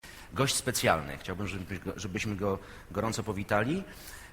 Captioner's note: Italian language